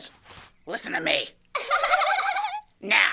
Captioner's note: laughter